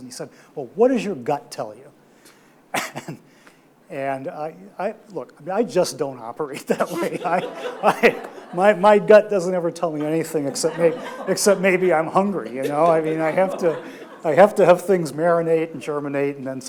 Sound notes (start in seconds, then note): 6.8 audience laughs